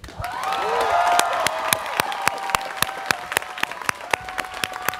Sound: students cheering

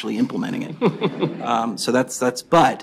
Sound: laughter

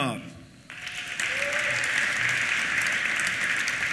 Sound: applause; cheers

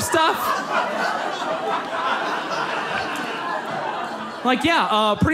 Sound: audience laughs

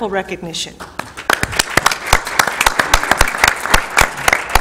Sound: applause

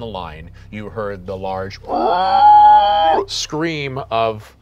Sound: screeching

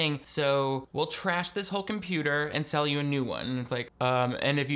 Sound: none

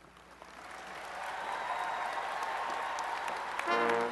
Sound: applause and cheering

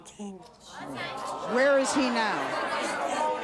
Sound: audience clamors

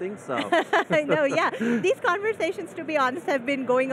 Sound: laughing

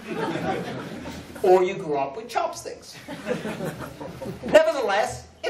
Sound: laughter

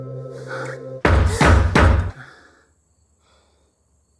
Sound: door banging

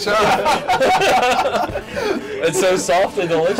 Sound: posse laughs

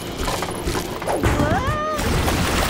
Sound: screaming

